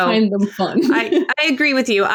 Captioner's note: laughs